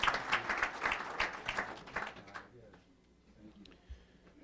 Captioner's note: applause